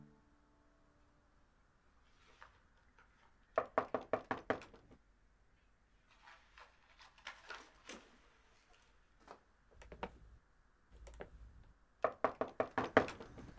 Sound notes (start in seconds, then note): 3.6 knocking on door